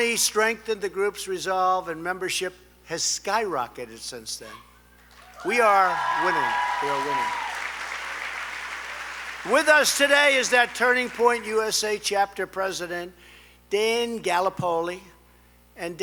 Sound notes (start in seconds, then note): 5.1 applause